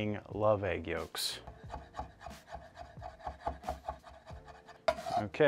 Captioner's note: soft chopping sounds